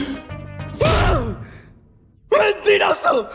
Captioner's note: inhales deeply; hollers